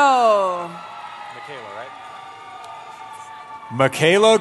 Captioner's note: cheering